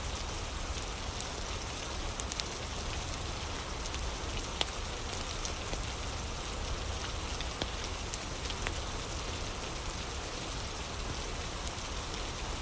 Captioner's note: fire crackling